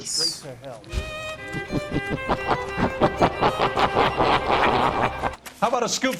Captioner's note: laughing demonically